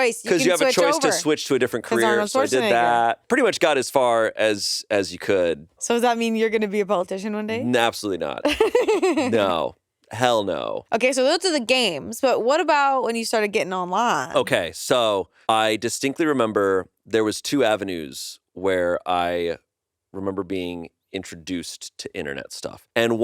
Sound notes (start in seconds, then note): 8.4 laughs